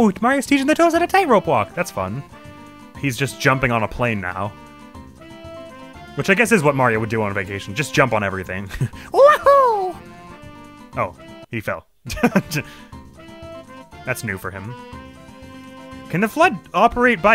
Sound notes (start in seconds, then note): 9.7 as Mario; 12.0 chuckles